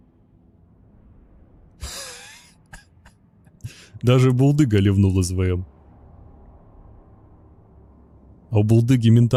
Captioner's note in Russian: смех